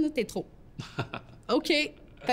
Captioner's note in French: rire